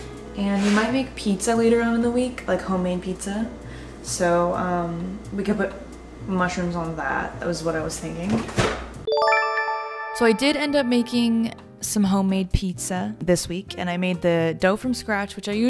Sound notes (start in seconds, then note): 8.2 fridge opening; 9.1 chime